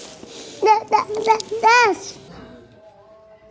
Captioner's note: laugh; toddler uttering